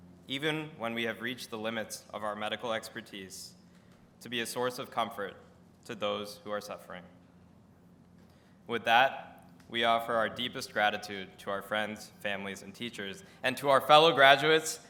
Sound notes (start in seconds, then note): none